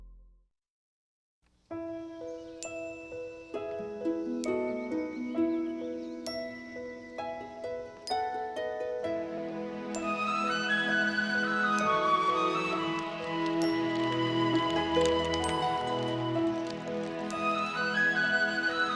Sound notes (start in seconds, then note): 1.8 bright music; 3.7 birds chirping; 13.1 pecans clattering